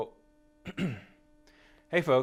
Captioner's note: clearing throat